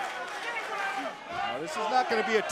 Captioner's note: crowd cheering